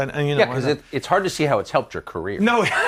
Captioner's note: laughs